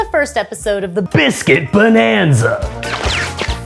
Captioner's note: laser shooting